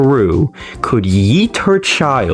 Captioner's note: inhales Oxygen